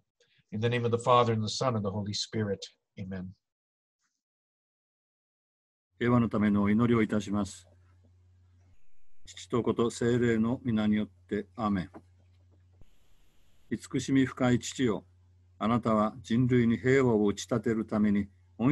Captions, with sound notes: In the name of the Father and the Son of the Holy Spirit, amen. (speaking in foreign language)